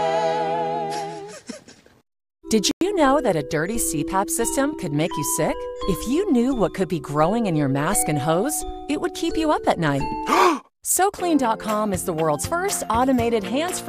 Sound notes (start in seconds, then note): 2.4 sobs quietly